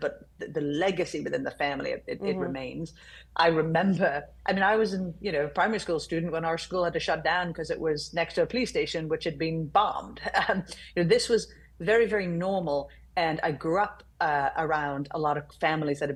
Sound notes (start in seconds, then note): none